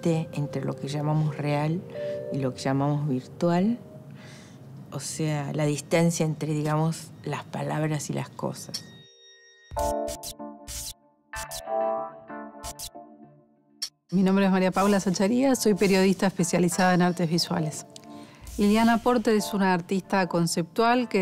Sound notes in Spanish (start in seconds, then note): 8.4 Música suave; 14.0 Voz de mujer